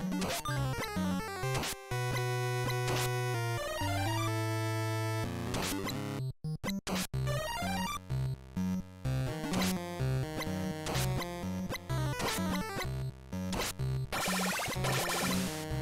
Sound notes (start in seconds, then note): none